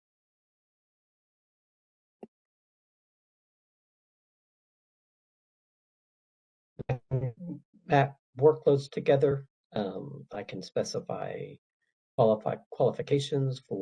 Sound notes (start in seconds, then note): 6.8 audio distorts